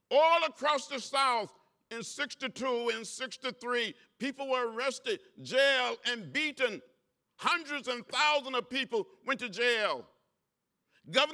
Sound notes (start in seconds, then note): none